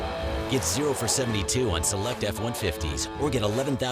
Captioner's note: voiceover